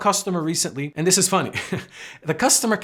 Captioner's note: chuckles